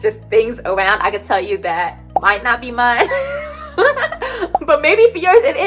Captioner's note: laughs